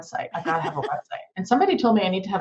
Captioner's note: laughing